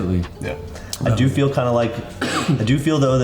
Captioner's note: coughs